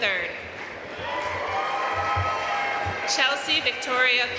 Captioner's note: audience cheering and applauding